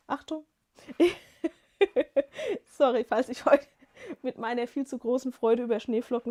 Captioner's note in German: gelächter